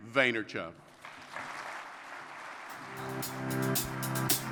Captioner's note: audience applause